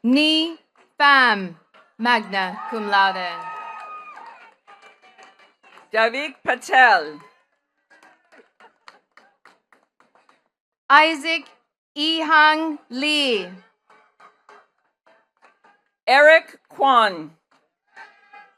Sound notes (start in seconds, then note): 0.0 attendees clapping; 2.1 attendees cheering and clapping; 7.8 attendees clapping; 17.9 attendees clapping